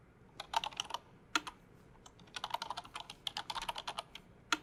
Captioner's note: typing